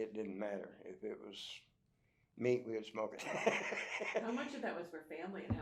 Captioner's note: laughs